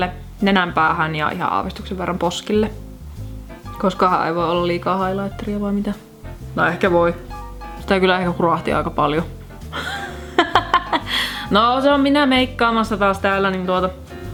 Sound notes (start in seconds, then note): 9.7 laughs